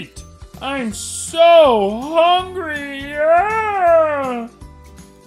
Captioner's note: wailing